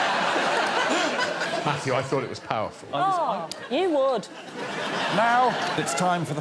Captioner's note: laughs